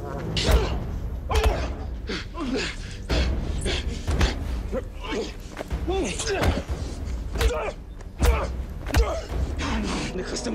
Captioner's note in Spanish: Golpes